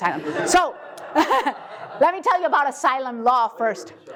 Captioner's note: laugh